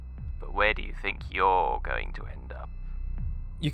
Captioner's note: voice on phone